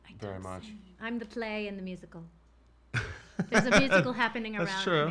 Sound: laughs

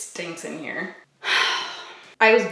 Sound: sighs

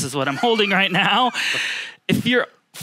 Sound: chuckling

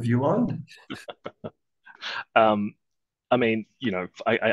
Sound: laughs

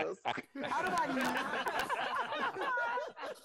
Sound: group laughing

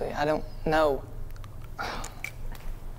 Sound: sighs

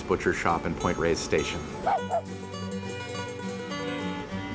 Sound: barking

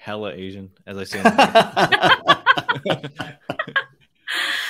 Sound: laugh

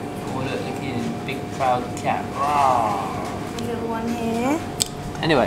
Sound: growls

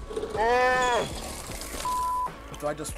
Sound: laughing; shouts

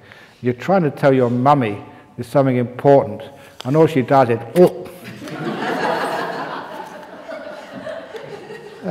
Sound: laughter

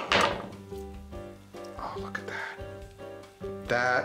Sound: whispering

